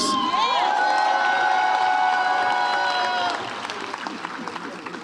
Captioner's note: audience cheers